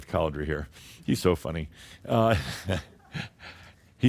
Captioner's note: Adamus chuckles